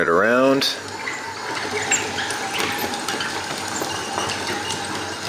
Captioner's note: motor running